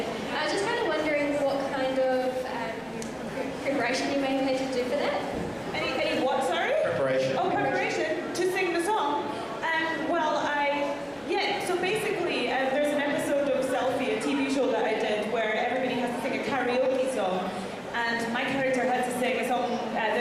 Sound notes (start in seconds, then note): none